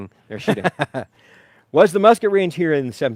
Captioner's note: laughing